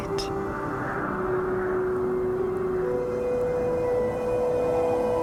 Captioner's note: ambient music; wind